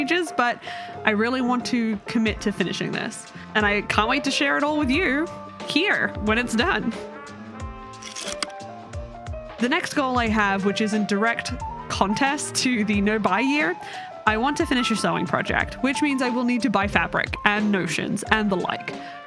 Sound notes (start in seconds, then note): 8.2 projector slide click